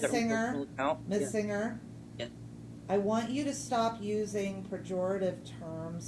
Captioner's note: video interference